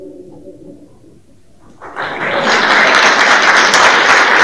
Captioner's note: applause